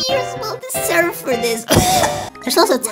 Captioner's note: cough